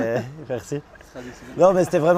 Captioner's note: chuckle